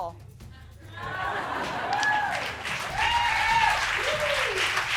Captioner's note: crowd laughs and cheers